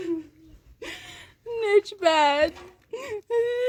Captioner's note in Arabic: شهيق